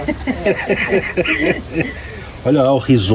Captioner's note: laughs